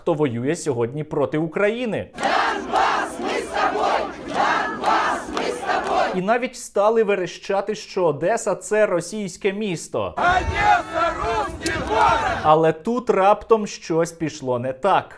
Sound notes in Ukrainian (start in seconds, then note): 2.0 скандують "Донбас ми с тобой!"; 10.0 скандують "Одєса рускій город"